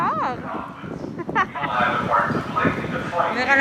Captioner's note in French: rires